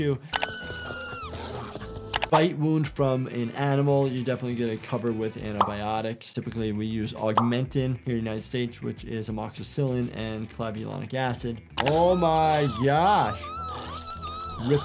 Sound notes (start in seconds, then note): 0.3 mouse clicks; 0.4 Giggles screaming; 1.3 mouse clicks; 11.7 mouse clicks; 11.9 Giggles screaming; 13.6 flesh tearing